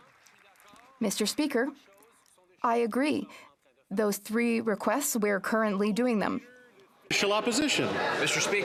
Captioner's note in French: applaudissements